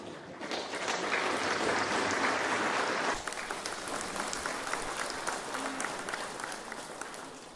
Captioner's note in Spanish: Aplausos del publico